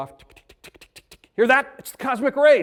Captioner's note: ticking sound